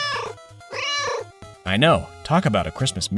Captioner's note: meow